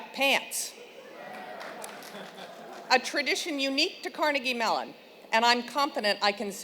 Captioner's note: applause